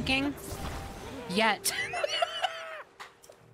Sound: laughter

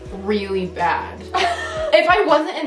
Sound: laughs

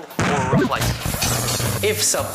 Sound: TV zaps

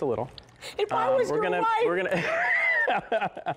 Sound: laughter

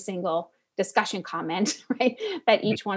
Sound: laugh

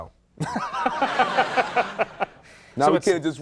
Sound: audience laughing

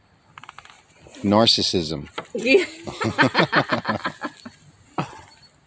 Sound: laughing out loud

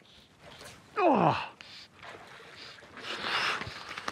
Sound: grunts

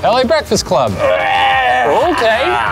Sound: groans loudly

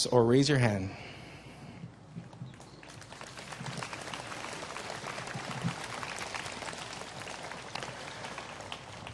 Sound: applause

